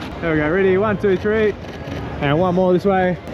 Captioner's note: camera clicking